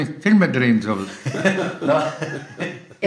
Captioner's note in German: lachen im Off